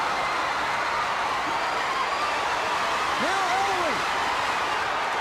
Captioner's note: crowd cheering